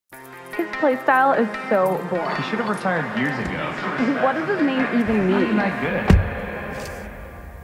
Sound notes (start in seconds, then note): 0.6 doubtful Voices